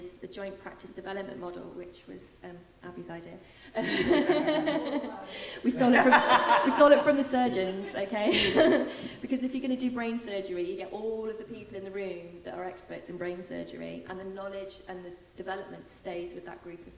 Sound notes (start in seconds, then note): 3.8 laughing